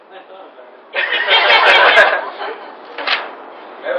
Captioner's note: laughter